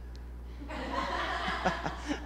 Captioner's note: laughter